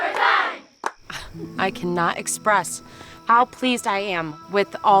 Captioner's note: chuckles